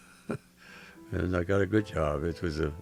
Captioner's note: chuckles